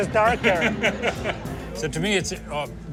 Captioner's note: laughs